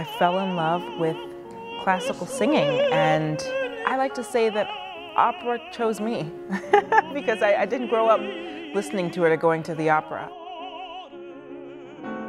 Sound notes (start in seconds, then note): 6.4 laughs